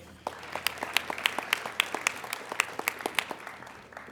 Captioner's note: applauding